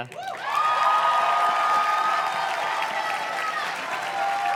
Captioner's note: audience cheers and claps